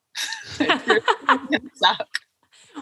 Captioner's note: laughter